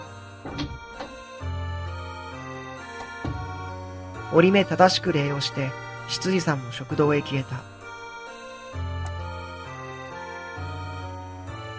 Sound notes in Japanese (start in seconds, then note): 0.4 扉の開く音：ガッチャン; 2.9 扉の閉まる音：バタン